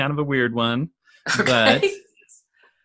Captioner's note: laughs